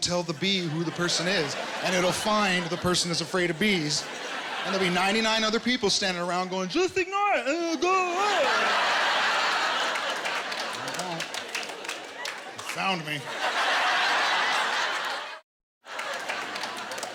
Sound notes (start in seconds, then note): 8.9 laughter